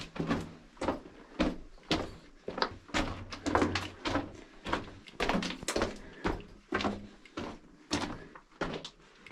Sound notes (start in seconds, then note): 3.5 footsteps; 3.5 heavy breathing